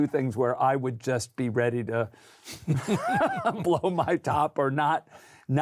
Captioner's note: laughter